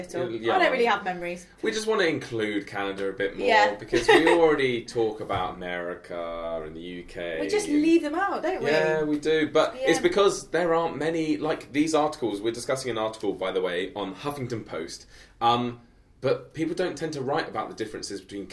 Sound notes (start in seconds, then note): 3.9 chuckles